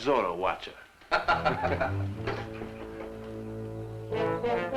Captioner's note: laughing